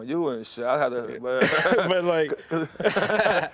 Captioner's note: laughter